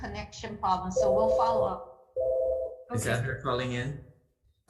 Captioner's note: phone ringing